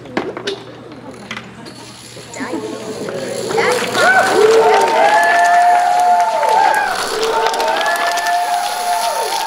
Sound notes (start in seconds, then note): 4.0 applause